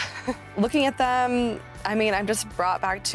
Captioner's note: laughs